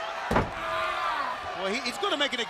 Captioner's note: crowd cheering